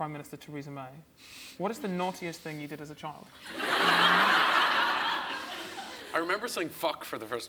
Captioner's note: audience laughs